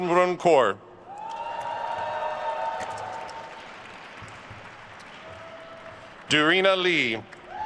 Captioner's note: attendees cheering and applauding